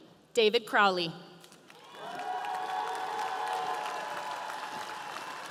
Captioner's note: audience cheering